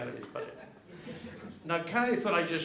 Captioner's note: audience laughing